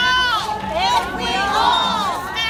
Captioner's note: crowd Repeating